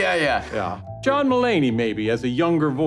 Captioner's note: laughter